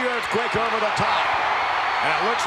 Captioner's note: crowd shout